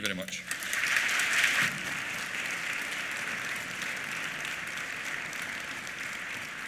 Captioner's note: applause